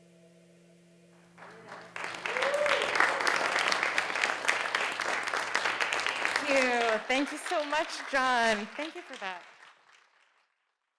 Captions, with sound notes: (audience applauding) Thank you so much, John. Thank you for that.